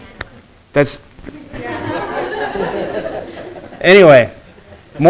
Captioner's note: students laughing